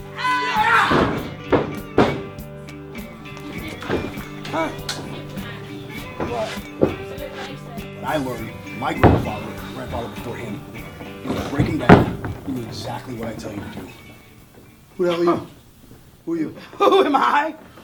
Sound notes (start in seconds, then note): 0.9 thumping; 3.7 thumping